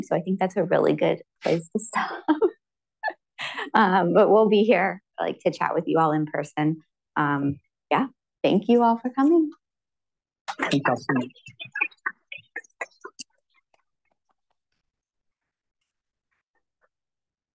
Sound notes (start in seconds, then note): 2.4 laughs; 11.4 applause